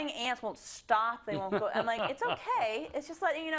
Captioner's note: laugh